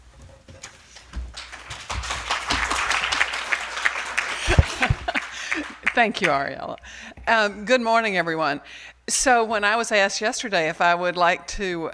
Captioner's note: applause